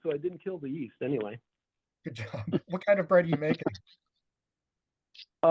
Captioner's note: laugh